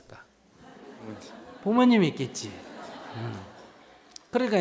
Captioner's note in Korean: 청중웃음